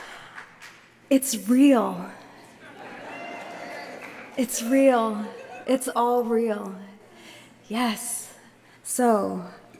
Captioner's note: laughter